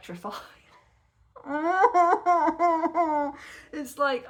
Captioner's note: loud crying